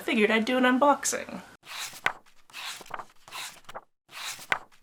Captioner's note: pages turning